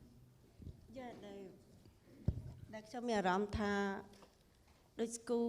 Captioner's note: speaking foreign language